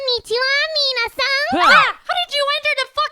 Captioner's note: everyone screams in unison